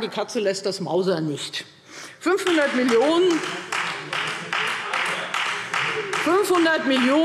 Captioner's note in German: Beifall Freie Demokraten